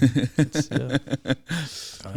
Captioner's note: laughing